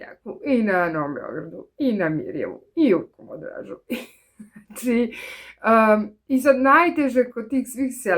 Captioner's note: laughter